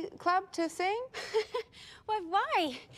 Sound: laughs

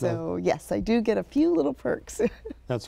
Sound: laughs

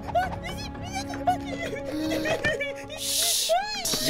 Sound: whimpering

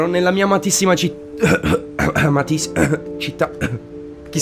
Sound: coughs

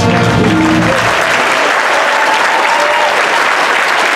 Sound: audience applauding

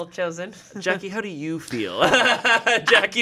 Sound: laughs

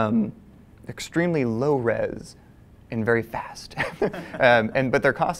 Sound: laugh

